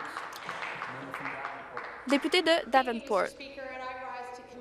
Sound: some Applause

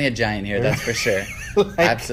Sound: laughs

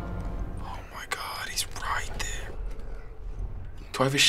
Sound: whispering

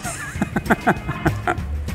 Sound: he laughs

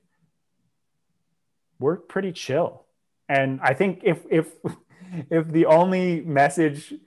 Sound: laughs

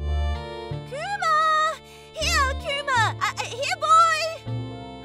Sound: off-screen, yelling

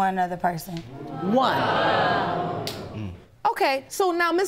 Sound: audience exclaims

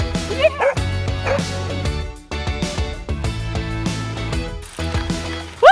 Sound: bright music; Camper barking

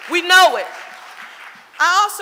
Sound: audience applauding

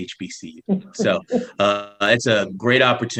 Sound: laughs

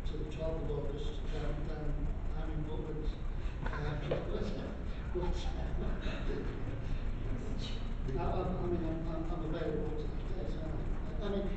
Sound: laughing

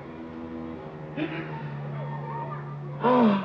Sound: Otto crying

